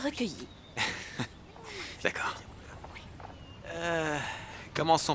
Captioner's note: laughs